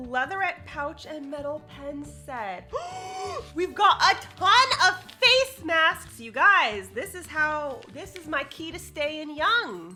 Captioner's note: gasps